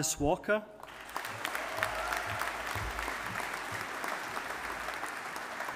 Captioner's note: audience applauding